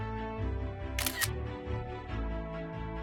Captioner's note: camera shutter sound